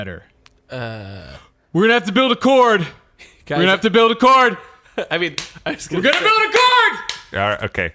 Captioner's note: shouting